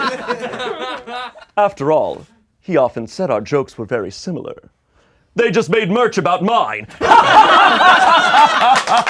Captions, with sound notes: - After all, he often said our jokes were very similar. They just made merch about mine (laughing dramatically).